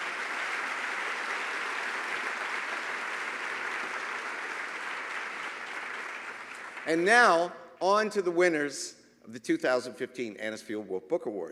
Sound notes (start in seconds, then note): 0.0 applause